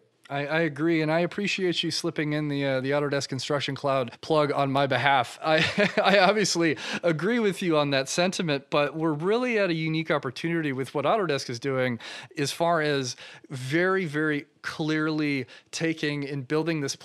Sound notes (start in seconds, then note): 5.5 laughs